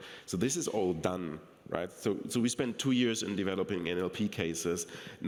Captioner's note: none